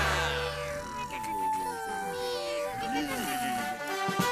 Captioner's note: all snoring